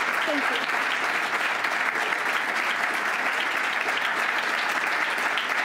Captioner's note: audience clapping